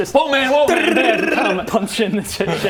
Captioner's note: drrrrrrrrrrrrrrrrrrrrrr